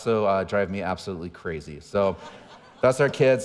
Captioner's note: audience laughing